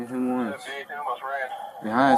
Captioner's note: radio chatter